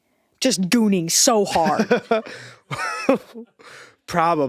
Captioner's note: Eddy laughing